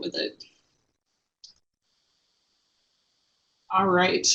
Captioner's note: no sound